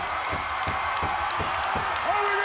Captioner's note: audience cheering